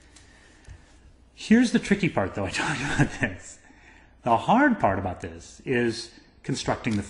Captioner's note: laugh